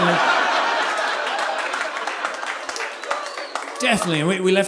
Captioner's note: audience applauding